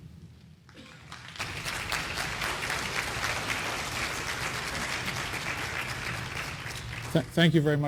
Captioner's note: applause